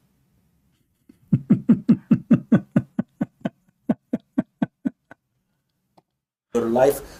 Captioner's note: Ketawa